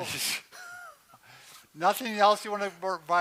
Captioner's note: laughs